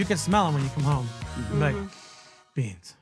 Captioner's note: sniffs